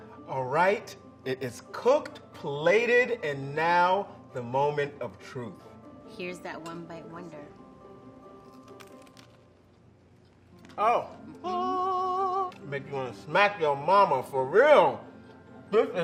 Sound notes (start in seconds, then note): 8.3 pork crunching; 11.7 singing